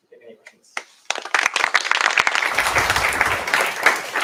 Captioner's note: applause